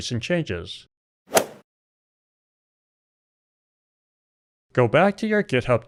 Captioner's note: golf swing sound effect